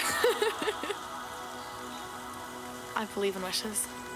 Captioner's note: Angelica laughs